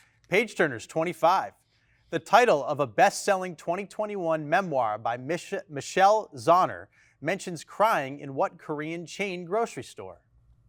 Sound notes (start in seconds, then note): none